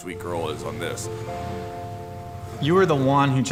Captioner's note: car engine revs